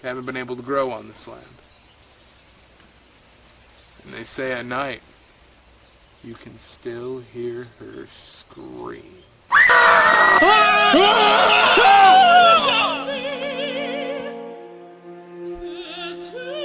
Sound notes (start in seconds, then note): 9.5 everyone screams